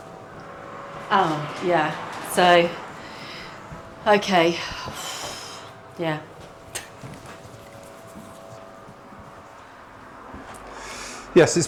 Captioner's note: sigh